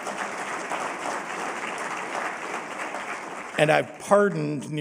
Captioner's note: applause